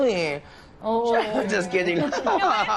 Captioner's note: laughs